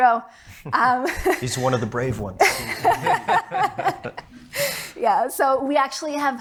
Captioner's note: laughs